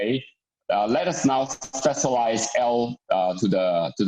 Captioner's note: murmurs